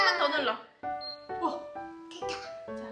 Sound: beep

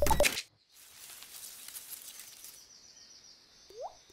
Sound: crickets chirping

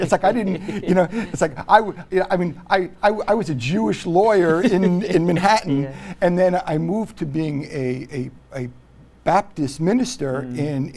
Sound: laughing

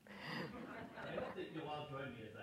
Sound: audience chuckles

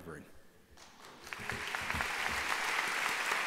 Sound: applause

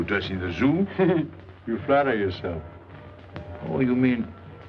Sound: laughing

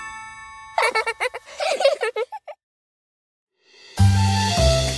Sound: friends laughing; cheerful music

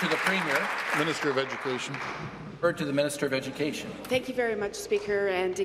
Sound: applause

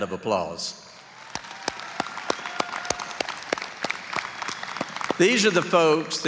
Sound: applause and cheering

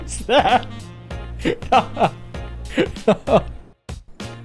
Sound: hearty laughing

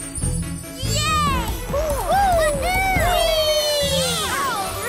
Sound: cheering

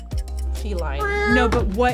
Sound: clock ticking; imitating a cat meowing

